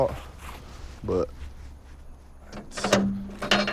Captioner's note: gate rattles as it opens